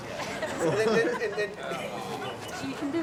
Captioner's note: crew laughing